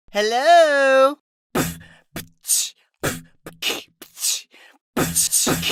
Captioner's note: pitiful beatboxing; mildly impressive beatboxing